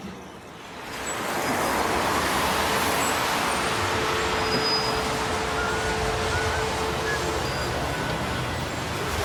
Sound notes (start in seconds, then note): 1.1 street sounds